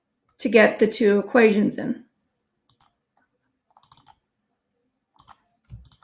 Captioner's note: mouse clicking